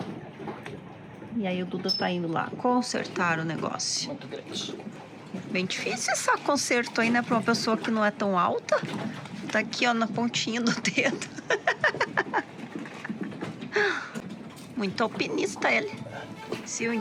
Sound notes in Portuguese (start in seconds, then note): 12.9 risadas